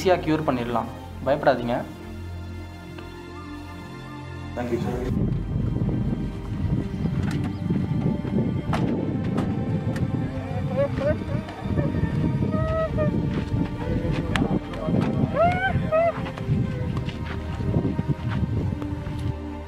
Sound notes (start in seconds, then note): 8.5 car door slams; 10.3 Nirmal sobs